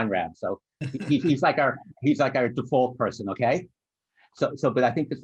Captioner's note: laughter